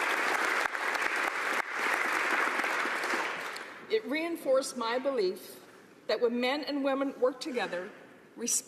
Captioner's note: applause